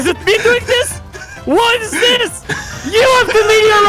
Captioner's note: still screaming; screaming